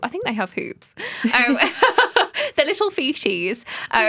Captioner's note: laughter